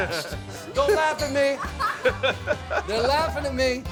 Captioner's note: laughing